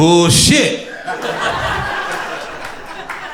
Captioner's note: crowd laughter